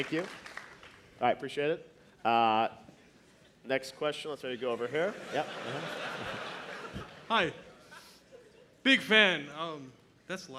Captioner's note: applause